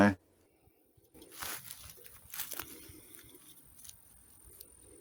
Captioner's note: footstep sounds